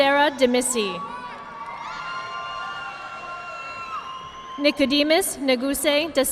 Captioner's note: audience clapping